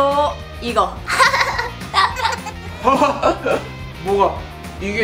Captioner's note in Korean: 웃음